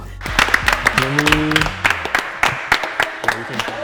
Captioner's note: applause